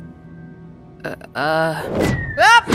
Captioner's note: air whistling; yelps